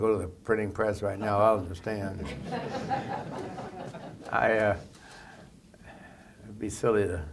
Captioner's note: laughter